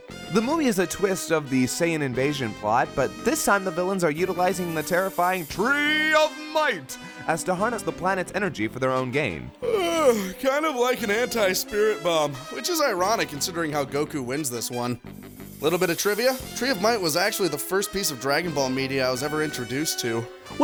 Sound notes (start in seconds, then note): 9.6 yawn